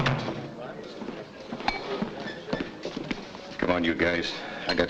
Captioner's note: door thuds shut